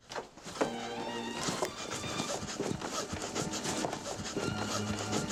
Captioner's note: heavy breathing